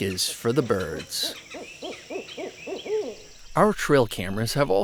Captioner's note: owl hooting